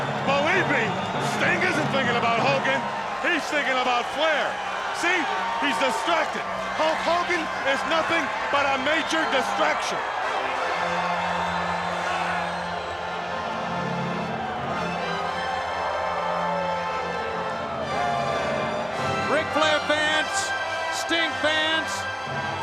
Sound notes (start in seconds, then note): 10.3 motivational instrumental music continues; 12.1 crowd cheering